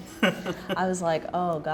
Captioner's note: laughing